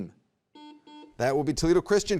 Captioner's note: button beeping